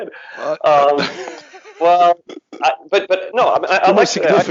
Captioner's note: laughs